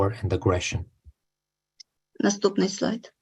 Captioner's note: foreign language